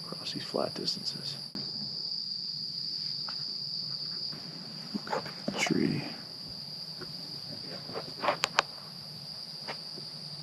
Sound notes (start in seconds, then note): 2.5 insects chirping